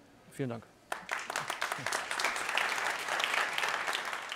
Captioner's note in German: applaus